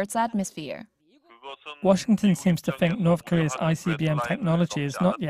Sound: Korean

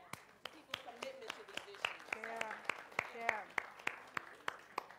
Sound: audience applauds

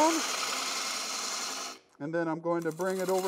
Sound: wood lathe chattering

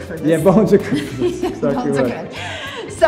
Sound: Cynthia laughs

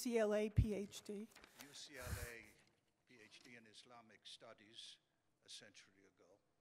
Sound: voiceover

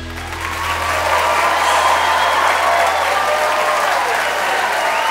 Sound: cheers and applause

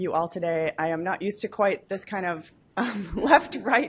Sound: laugh

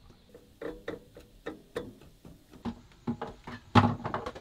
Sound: clunking

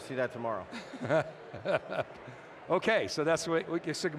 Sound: giggles

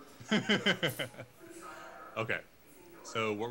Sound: laughing

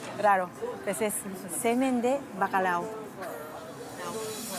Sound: laughs

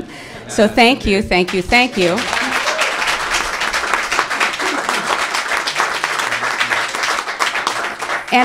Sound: applause

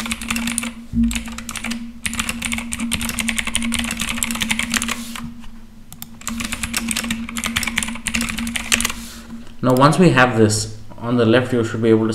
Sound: Keychron K8 Typing - Rejoice

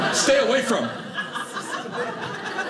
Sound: audience laughing

